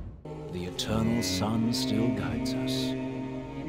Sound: banshee scream

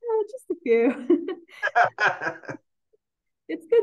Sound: both laughing

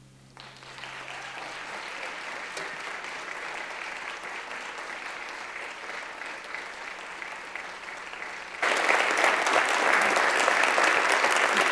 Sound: applause

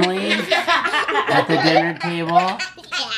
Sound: laughing

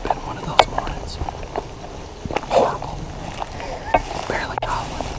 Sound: whispering

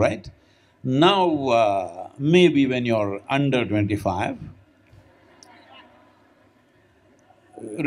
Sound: laughter

